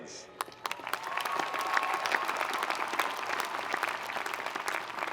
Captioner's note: audience cheering and applauding